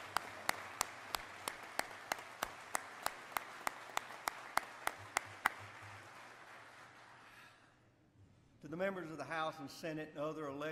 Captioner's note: applause